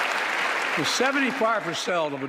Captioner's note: applause